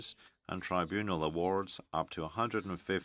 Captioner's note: speaking French